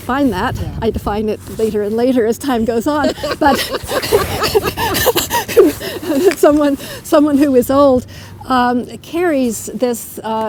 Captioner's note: laughter